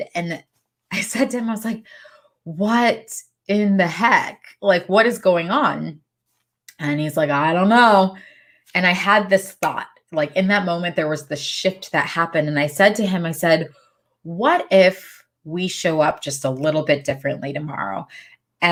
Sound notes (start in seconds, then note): 9.3 snaps fingers